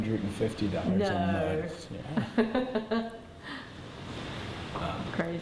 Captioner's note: laughs; laughs